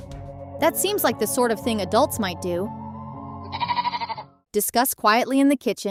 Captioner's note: bleating